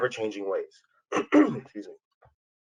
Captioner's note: coughs